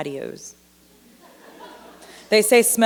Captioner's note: laughter